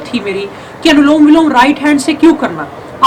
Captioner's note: alternate nostril breathing